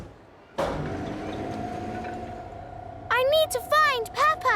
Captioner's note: lift moving